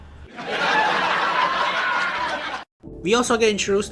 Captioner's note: generic laugh track